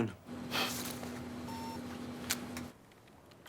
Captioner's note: alarm